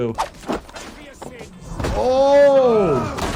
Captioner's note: characters groan, weapon slashes